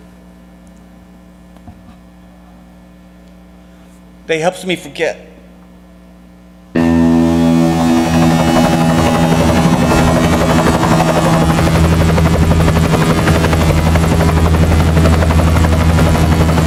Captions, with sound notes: They helps me forget. [electronic buzzing] [helicopter whirring]